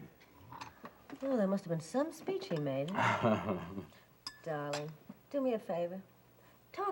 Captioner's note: Mike laughs